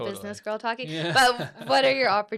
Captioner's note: laughs